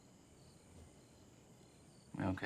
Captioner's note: crickets chirping